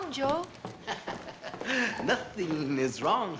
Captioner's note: laughing